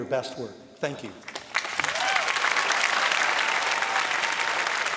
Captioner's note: applause